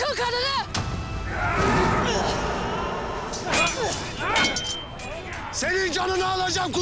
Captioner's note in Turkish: Kılıç Sesleri